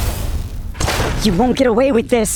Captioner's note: pop pop pop